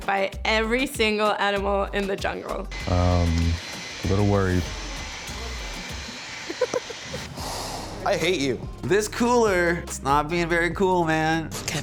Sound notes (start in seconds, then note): 6.3 laughs